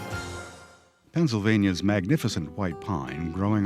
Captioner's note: voiceover